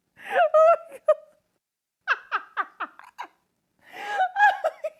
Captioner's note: continues to laugh